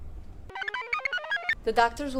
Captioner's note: computer chirps